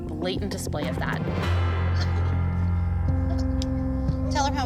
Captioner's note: crying